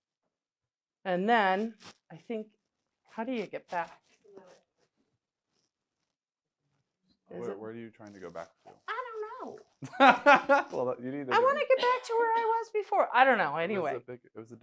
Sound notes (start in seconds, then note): 9.8 laughs